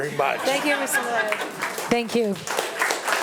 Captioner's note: attendees laughing and applauding